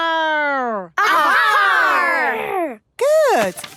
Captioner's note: all shouting